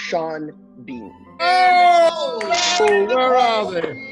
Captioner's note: group cheers